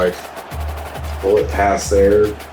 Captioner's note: crowd Noises